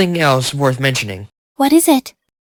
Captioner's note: curiously